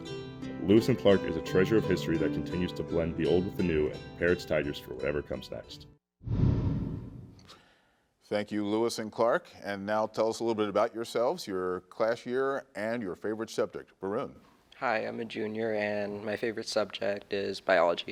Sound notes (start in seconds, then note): 0.0 gentle music; 6.2 wind whooshes